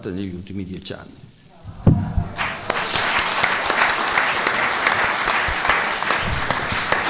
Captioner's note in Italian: Applauso